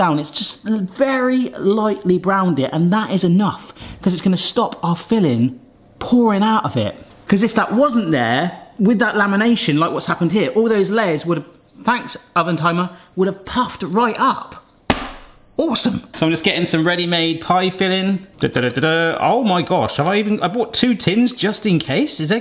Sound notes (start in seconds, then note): 10.7 timer bleeps; 14.9 slaps counter